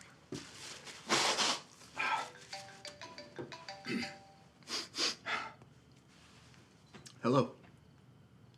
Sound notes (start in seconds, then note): 1.5 Isaac sniffles and sighs; 4.0 Isaac clears throat and sniffles